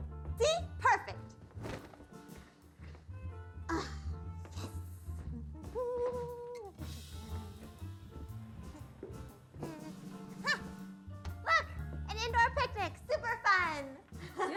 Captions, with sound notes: See, perfect. Yes. (humming) Huh, look, an improv picnic. Super fun. (laughing)